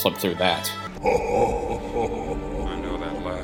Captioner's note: hohohohoho